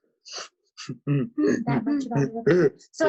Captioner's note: laughing